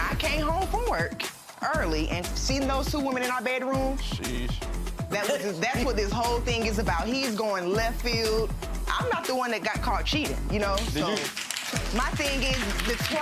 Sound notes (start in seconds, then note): 5.2 Lynn laughing; 10.7 audience clapping